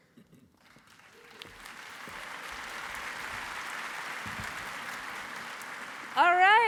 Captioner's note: applause